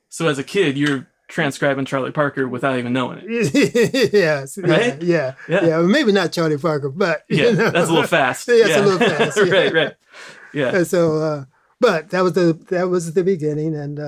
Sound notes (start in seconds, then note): 3.2 laughs; 7.2 laughter